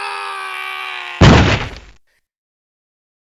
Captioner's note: thud!